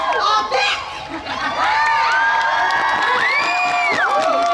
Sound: audience Cheering

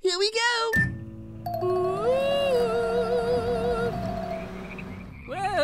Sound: ghost sounds

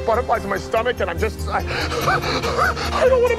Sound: man hyperventilating

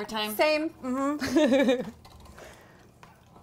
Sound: laughing

